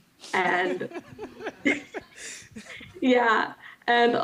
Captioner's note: laughter